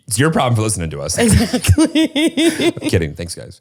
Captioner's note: laughs